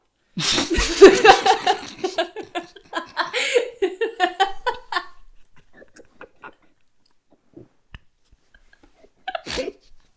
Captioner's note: starts choking on drink